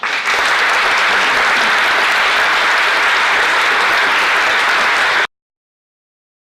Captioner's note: applause